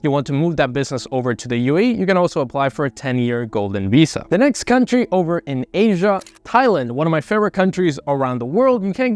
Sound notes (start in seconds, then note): 6.1 screen scratches